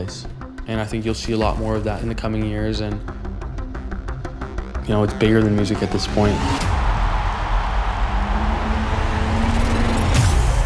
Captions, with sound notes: And I think you'll see a lot more of that in the coming years... It's bigger than music at this point. [LOUD CHEERING]